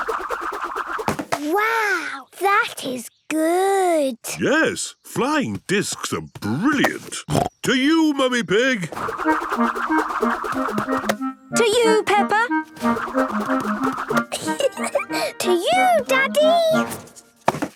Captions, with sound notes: - Wow! That is good! - Yes, flying discs are brilliant. (snorting) To you, Mummy Pig! - To you, Peppa! (giggling) - To you, Daddy!